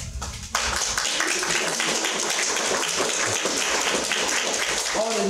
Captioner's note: sustained audience applause